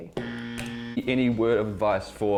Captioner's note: buzzer